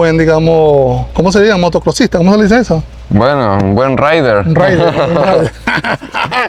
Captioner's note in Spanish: risas